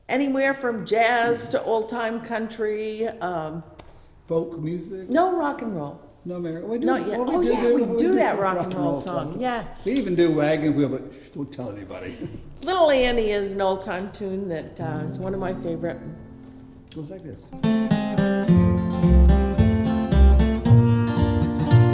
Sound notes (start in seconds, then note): 12.0 laughs; 17.5 lighthearted bluegrass music